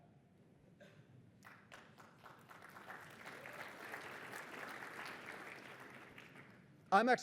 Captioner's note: applause